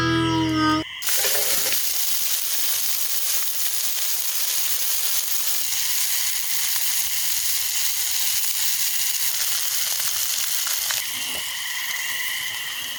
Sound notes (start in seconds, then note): 0.9 hamburgers sizzle